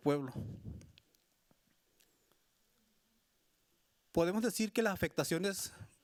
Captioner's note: speaking Spanish continues